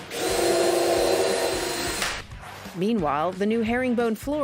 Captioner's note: drill whirring